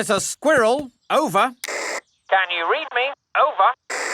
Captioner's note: walkie-talkie crackles; walkie-talkie crackles